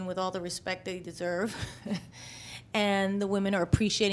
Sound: laughs

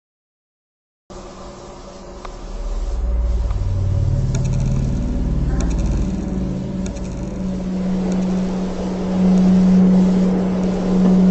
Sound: specter ambient

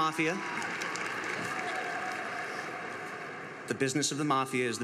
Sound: crowd laughs

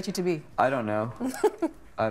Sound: chuckling

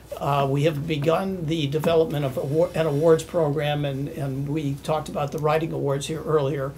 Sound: none

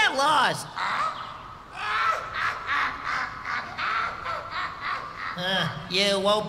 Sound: laughing

